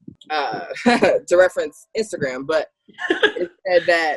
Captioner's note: laughs quickly